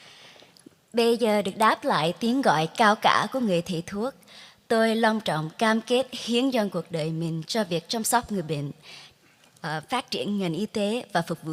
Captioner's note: speaking vietnamese